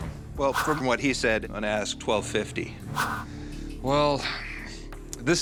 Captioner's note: none